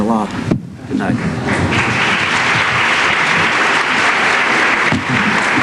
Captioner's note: applause